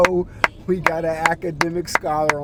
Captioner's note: clapping